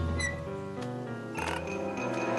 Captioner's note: creak!